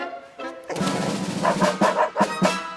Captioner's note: barking